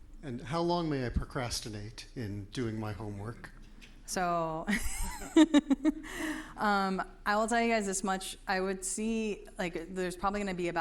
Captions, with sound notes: - And how long may I procrastinate in doing my homework? - So, (laughs) I'll tell you guys this much, I would see like there's probably gonna be